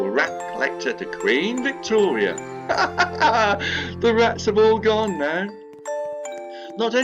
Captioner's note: laughs